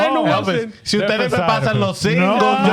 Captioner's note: speaking In Foreign Language